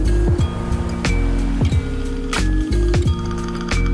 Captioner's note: waves crashing